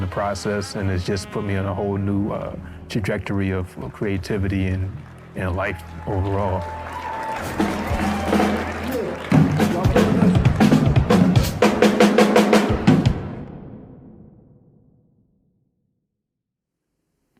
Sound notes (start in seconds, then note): 6.6 audience cheering; 6.6 upbeat jazz music